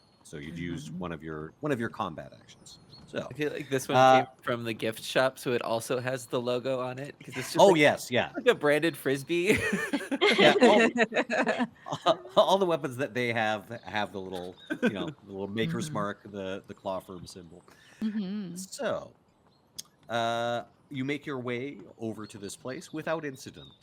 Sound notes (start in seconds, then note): 9.4 laughs; 14.3 Cornette laughs